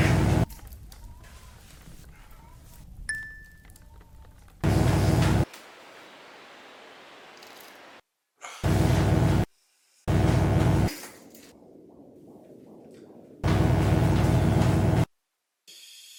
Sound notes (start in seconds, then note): 0.2 electric buzzing; 3.1 bell dings; 5.3 electric buzzing; 10.1 electric buzzing; 11.5 heart beating; 13.4 electric buzzing